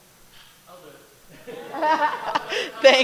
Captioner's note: laughter